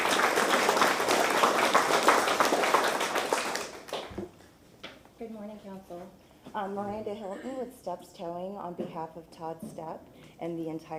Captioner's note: applause